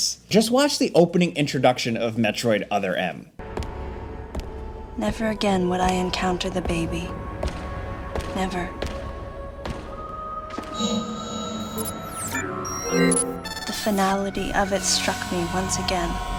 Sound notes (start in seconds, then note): 3.3 dramatic music; 8.8 dramatic music; 8.8 footsteps pattering